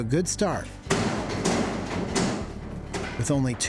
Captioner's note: banging